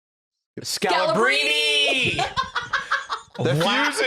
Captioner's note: laughs